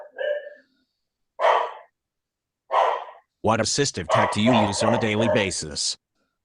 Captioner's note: dog barks